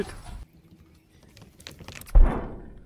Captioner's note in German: klappern